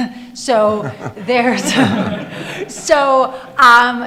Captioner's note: audience laughing